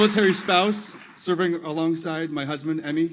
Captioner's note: applause